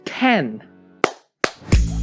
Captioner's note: claps